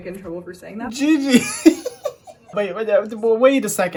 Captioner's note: laughs